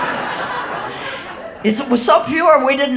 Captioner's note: audience laughing